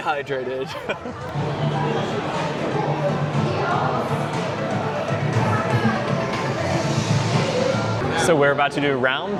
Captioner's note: crowd murmuring